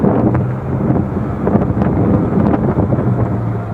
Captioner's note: engine, wind noise